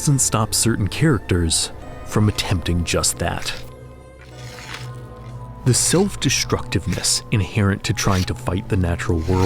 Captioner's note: spear scraping